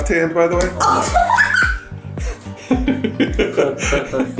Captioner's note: laughs